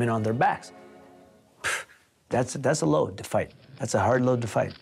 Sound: exhales

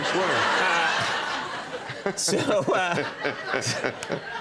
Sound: audience laughing

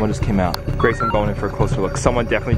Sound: digital beeps

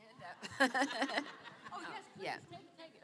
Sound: laughter

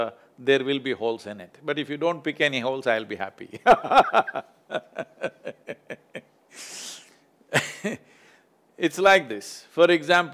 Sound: laughs

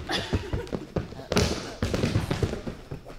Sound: groaning

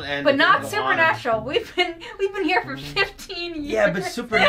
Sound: laughs

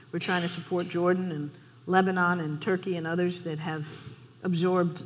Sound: none

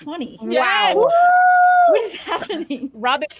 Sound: players cheer

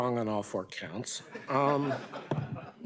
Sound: laughter

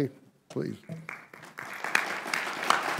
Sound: applause

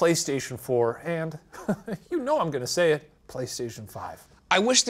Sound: chuckles

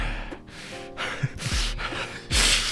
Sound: intense breathing

